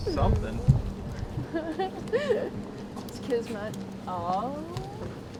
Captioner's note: riendo